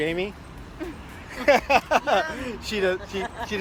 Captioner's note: laughter